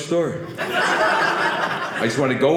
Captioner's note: audience laughing